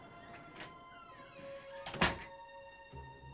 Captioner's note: door closes